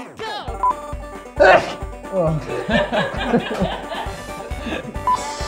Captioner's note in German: Gelächter